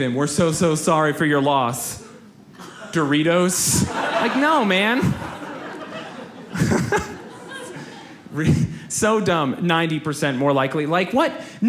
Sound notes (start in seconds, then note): 5.4 audience laughs